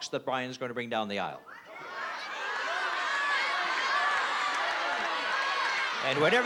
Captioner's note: audience yelling